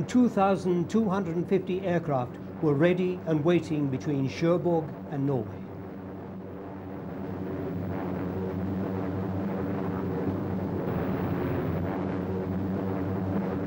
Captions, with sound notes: Some 2,250 aircraft were ready and waiting between Cherbourg and Norway. (planes zooming)